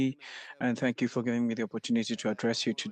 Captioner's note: speaking French